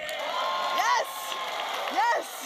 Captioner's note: audience applauding and cheering